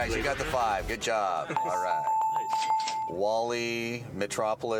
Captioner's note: bells